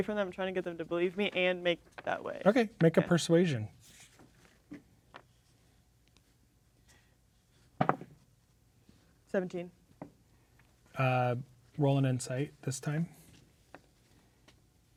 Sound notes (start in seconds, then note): 7.5 dice rolling